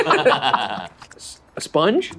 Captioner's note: laughs